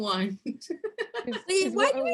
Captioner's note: laughs